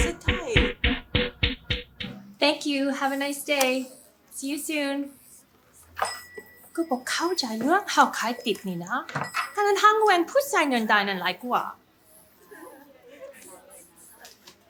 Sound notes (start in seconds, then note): 0.0 intense music; 6.7 sister speaking foreign language